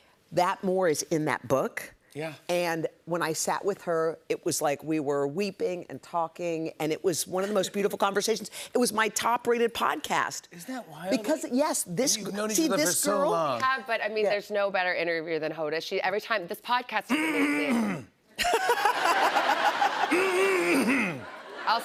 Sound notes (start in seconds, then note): 17.1 Jimmy clears throat loudly; 20.1 Jimmy clears throat loudly